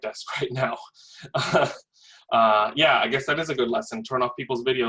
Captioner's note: laugh